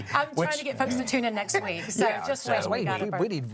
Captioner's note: laughs